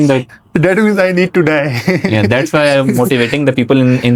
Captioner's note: laughs